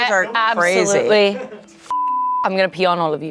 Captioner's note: beep